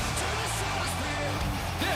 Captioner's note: cheers and applause